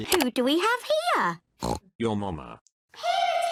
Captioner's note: peppa snorts